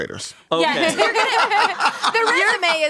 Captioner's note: everyone laughs